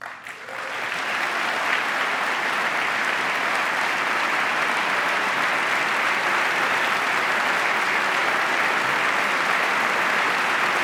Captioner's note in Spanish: aplauso